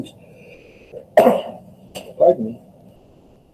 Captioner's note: cough